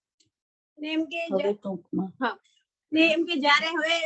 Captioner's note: non-english speech